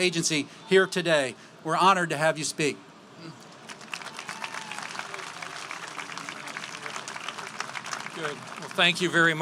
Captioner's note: applause